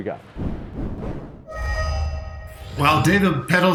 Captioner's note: whooshing